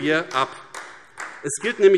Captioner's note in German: Beifall AfD